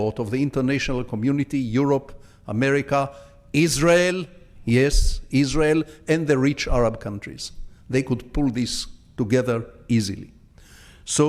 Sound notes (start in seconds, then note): none